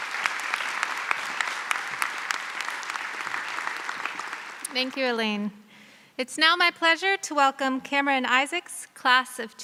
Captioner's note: applause